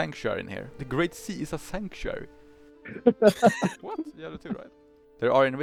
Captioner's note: haha